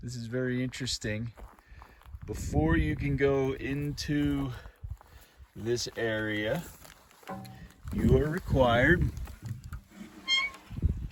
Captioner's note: squeaky metal noise